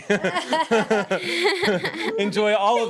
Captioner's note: everyone laughs